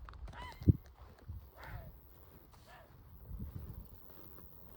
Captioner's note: grey heron call